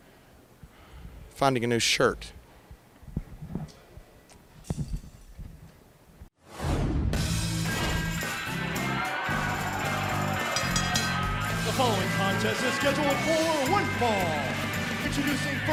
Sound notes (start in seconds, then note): 7.8 crowd cheering; 11.9 bell ringing